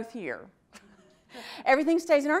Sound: audience laughs

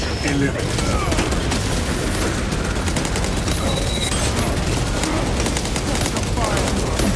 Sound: machine gun blasting; enemies grunting

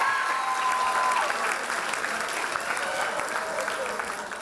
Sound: loud applause and cheers

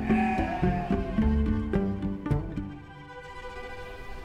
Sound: sheep bleating; pizzicato string music

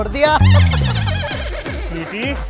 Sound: laughing

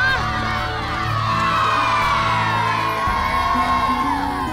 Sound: crowd cheers

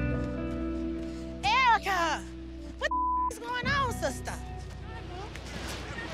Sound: ominous music; beep

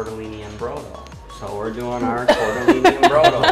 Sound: laughs

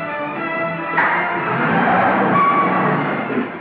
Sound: car Engine Starting

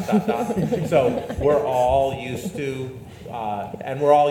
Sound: panelists laugh

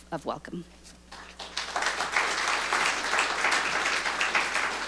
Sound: audience applauding

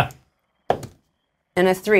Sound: dice rolls

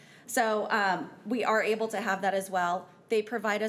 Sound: none

